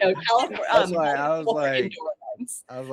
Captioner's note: laughing